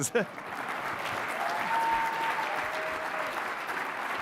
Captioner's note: audience applauding